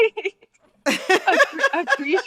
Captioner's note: laughter